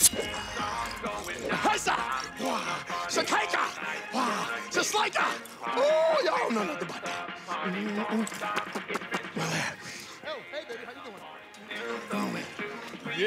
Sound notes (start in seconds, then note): 0.0 metallic scraping; 8.4 smacks lips